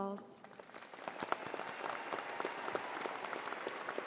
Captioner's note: crowd applauding